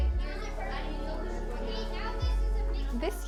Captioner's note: kids talking over each other